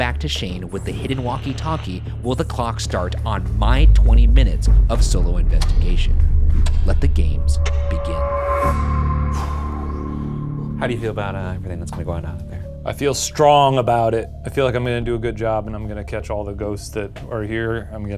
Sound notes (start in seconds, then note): 9.2 exhales sharply